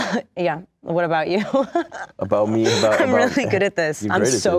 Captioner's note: laughs